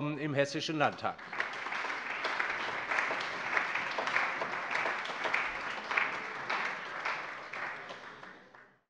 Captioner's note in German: Allgemeiner Beifall